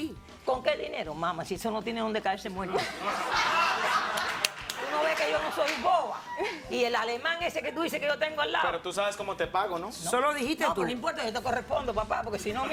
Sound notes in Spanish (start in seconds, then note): 2.7 Risas